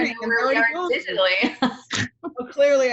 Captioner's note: laughing loudly